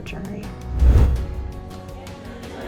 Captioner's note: swoosh sound effect